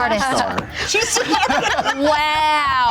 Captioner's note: group laughter